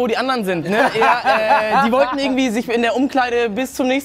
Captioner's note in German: Lachen